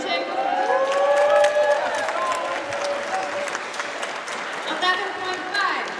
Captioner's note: audience cheers and applauds